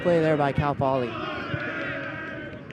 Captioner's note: chanting